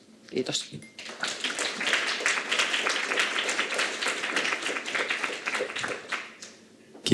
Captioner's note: Aplodeja